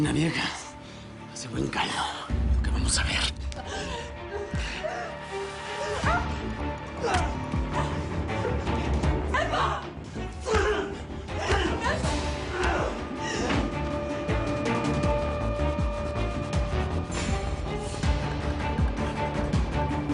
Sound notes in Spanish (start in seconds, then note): 11.2 Golpes; 12.2 Quejidos